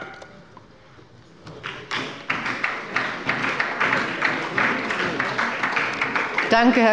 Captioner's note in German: Beifall bei der SPD